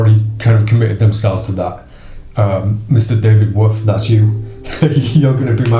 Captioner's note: laughs